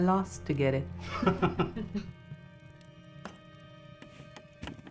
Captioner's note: chuckles